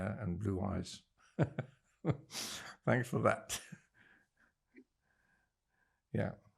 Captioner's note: laughing